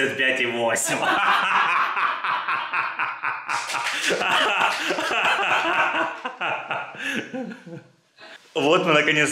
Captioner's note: laughter, applause